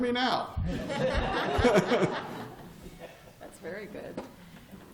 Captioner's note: laughter